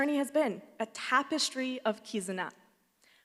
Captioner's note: speaks Japanese